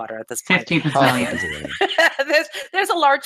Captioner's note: laughs